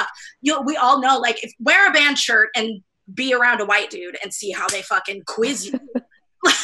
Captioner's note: laughs